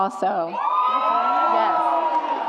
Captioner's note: audience applauds and cheers